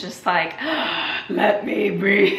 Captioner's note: gasps for air